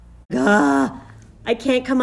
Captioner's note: groans